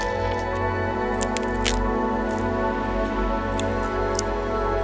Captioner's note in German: Zweige knacken; sanfte Instrumentalmusik geht weiter